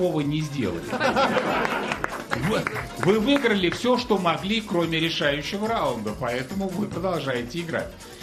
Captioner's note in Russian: смех